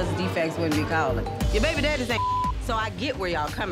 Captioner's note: beep